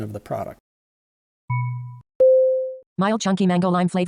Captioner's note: notification tone